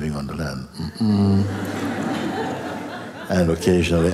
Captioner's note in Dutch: gelach